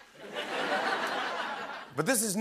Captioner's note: laughter